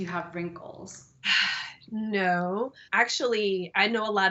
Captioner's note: sighs